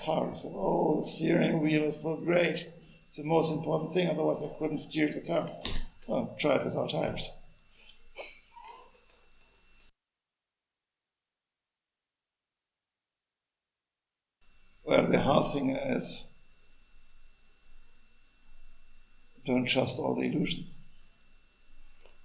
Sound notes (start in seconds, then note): 7.8 laughs